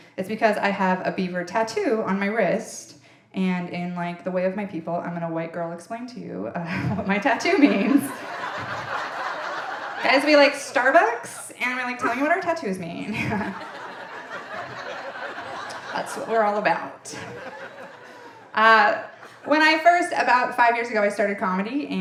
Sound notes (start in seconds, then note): 7.2 audience laughing; 13.0 audience laughing